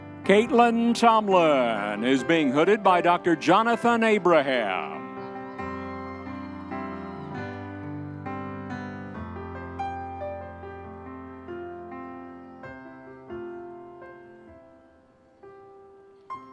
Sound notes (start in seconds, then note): 5.6 audience members cheering; 8.3 gentle piano music continues